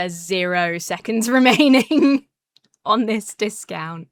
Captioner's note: laughs